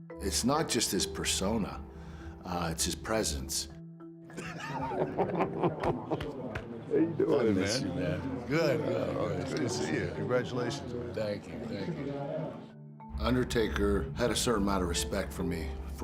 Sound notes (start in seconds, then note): 4.3 pair laughing